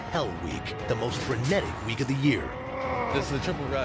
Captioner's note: growls